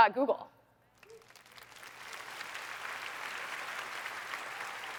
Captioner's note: applause